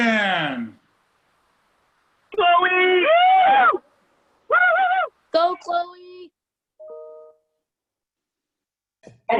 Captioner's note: cheering